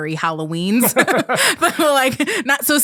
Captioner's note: both laughing